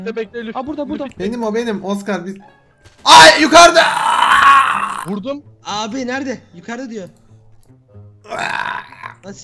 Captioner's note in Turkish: acı dolu bağrışlar